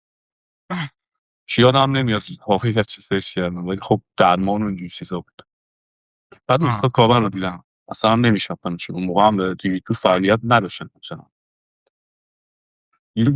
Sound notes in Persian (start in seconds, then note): 1.3 گلویش را صاف می‌کند